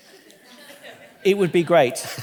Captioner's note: audience laughing